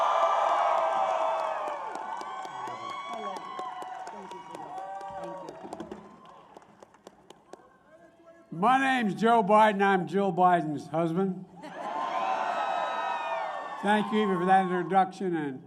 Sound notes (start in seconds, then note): 0.0 applause; 12.4 applause